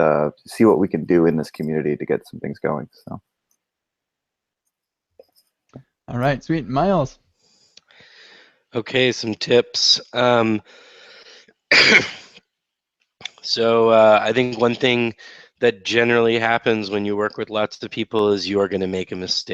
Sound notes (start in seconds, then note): 11.7 coughs